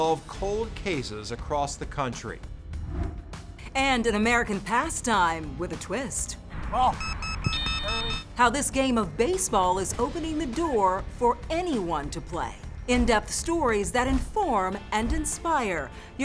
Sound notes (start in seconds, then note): 7.0 alarm beeping